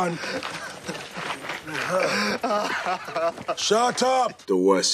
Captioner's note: sobbing